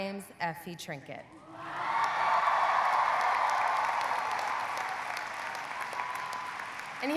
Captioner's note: audience cheering; audience applauding